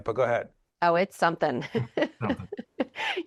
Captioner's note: laughing